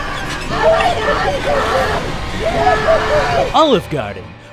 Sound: car rattles; men scream

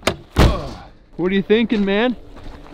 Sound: door slams

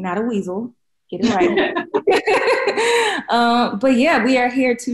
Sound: laughing loudly

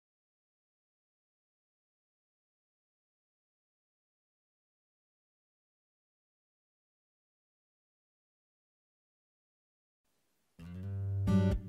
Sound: no audio

